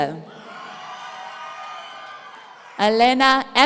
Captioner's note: audience cheering